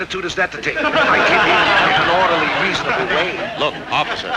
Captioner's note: audience laughing